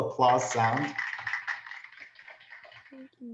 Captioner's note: applause